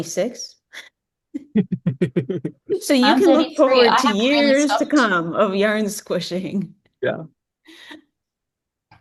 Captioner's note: laughs